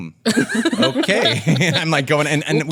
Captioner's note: laughs